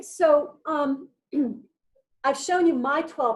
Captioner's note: clears throat